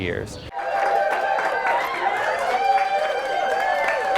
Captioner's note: crowd cheering